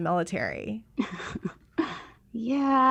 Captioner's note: chuckles awkwardly